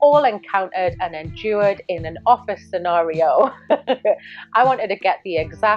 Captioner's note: laughs